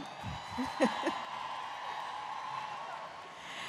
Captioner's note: applause